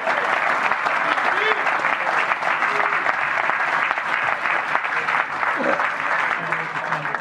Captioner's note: applause